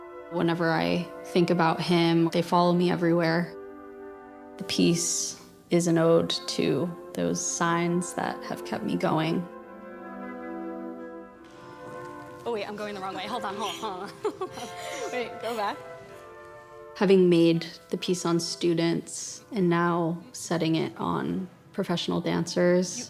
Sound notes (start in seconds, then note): 12.9 laughter